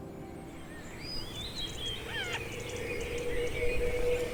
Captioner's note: birds chirping